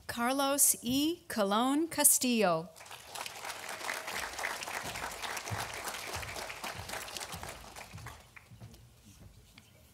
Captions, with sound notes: Carlos E. Colon Castillo (audience applauding)